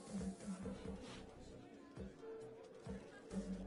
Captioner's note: sniffing